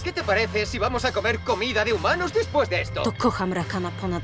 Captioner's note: Spanish